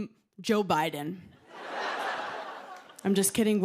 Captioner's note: laughter